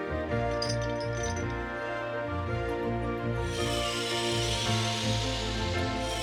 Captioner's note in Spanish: traqueteo de la cadena; zumbido